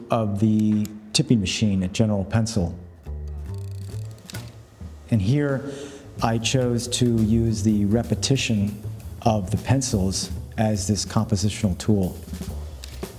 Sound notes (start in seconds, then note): 3.2 dial clicking; 3.4 mellow bass music; 12.8 camera clicks